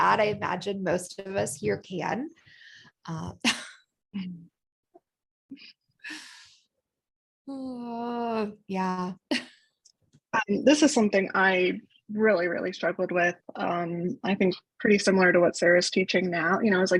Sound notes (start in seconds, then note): 6.2 laughter